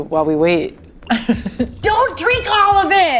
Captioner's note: laughter